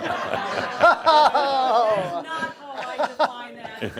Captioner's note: more chuckles